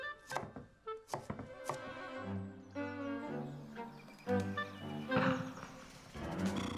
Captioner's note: playful music; knife thudding